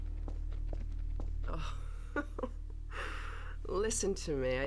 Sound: giggles

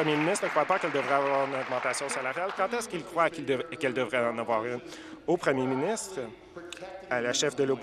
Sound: applause

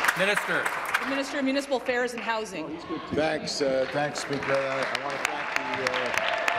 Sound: applause

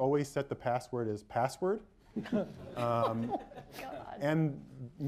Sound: laughter

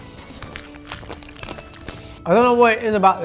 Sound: wrapper rustling

